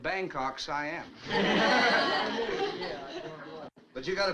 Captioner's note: all chuckles